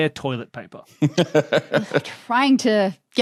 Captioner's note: laughs